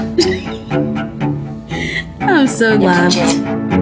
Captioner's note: laughing